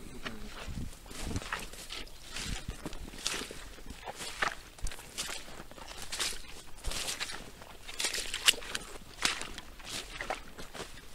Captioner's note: sounds of wellies squelching in a bog